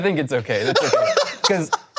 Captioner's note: laughing